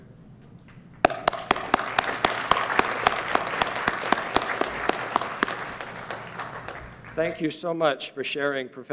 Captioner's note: applause